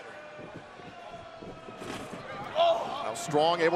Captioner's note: crowd chatter